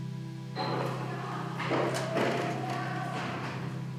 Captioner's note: people chatter